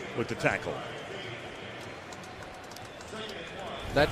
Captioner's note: pa announcement